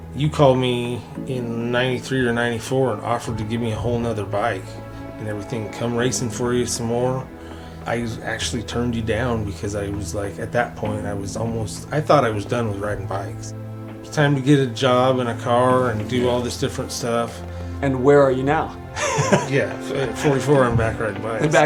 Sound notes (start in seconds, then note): 18.9 laughs